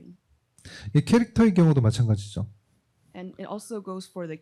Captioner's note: speaking korean